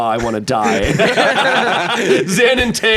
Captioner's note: everyone laughs